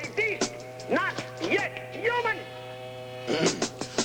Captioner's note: turbines whirring